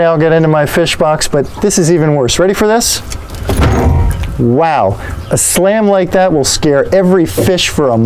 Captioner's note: loud slam